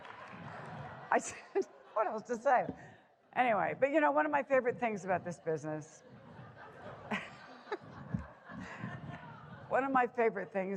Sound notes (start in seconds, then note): 8.5 chuckling